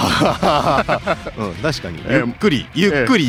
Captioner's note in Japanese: 笑い